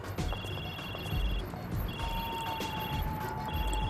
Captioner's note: phone ringing